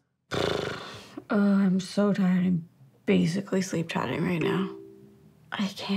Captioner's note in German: seufzt